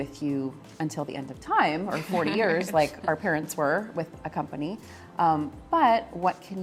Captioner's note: laughs